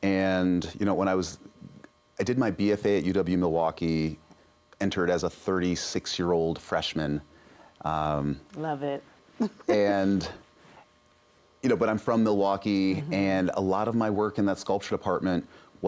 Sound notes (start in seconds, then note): 9.4 laughs